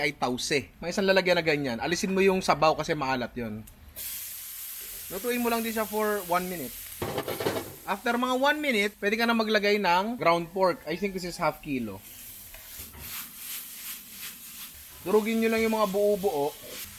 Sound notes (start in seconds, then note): none